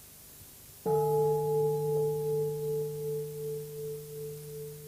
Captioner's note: bell